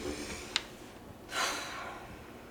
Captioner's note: exhales sharply